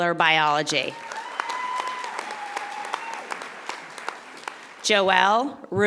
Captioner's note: audience applauding